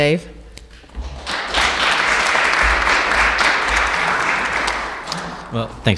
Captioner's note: applauses